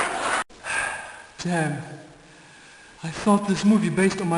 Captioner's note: sighs